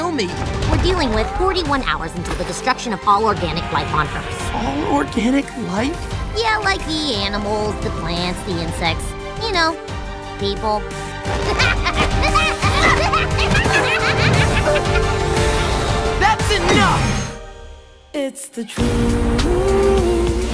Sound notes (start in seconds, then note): 11.3 maniacal laughing